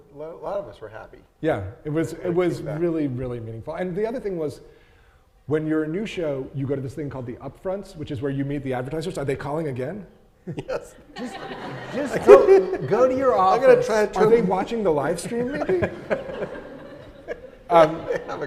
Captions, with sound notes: a lot of us were happy. - Yeah, it was really, really meaningful. And the other thing was, when you're a new show, you go to this thing called the upfronts, which is where you meet the advertisers. Are they calling again? - Yes. (audience laughing) - Just go to your office. - I'm going to try and turn- - Are they watching the livestream maybe?